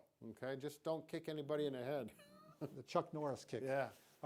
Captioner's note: laughs